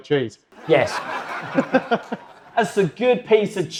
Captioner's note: audience laugh